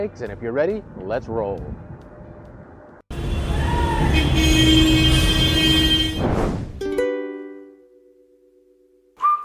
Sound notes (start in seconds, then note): 3.1 car horn honking